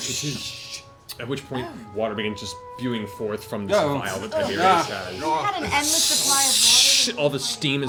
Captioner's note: spraying; spraying